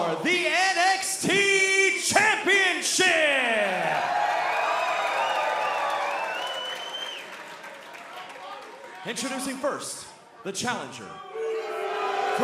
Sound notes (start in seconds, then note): 3.6 cheers and applause